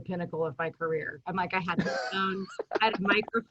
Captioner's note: chuckles